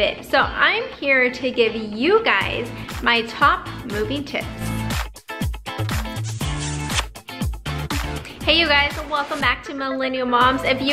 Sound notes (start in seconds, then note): 4.9 optimistic music; 6.0 lips kissing